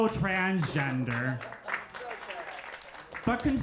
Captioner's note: crowd applauds